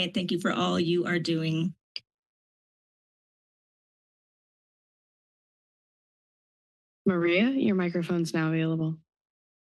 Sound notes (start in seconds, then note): 1.7 silence